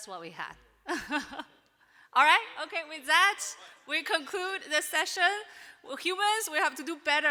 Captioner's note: chuckles